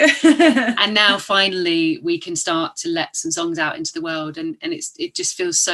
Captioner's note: laughs